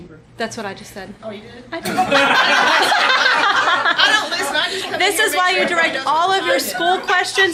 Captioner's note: laughs